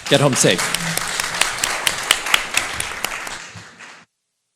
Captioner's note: applause